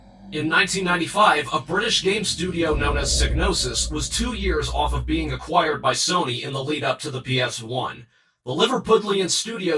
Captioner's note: distorted voice